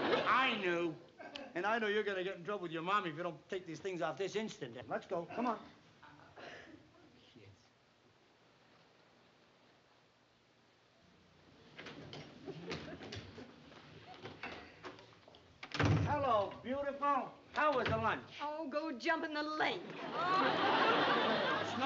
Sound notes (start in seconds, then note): 15.6 door closes